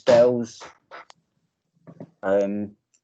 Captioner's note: crash In Background